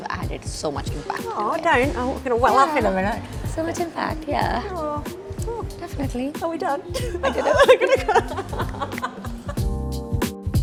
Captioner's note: laughs